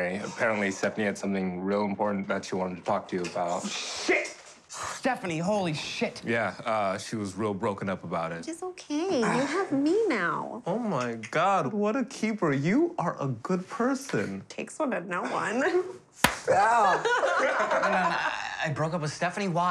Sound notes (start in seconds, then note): 16.2 hands smacking; 16.9 laughing